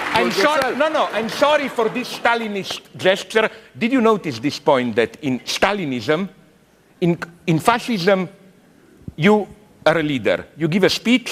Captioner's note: applause